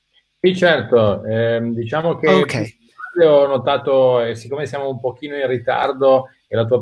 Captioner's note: speaking in foreign language